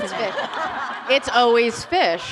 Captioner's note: laughter